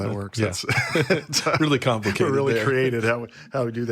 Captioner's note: laughs